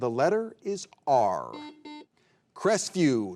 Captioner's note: buzzer beeping